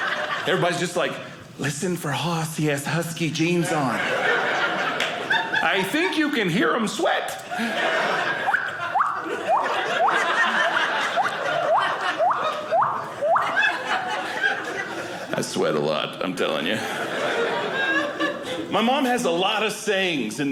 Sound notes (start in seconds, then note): 0.0 audience laughing; 3.6 audience laughing; 7.8 water sounds; 16.6 audience laughing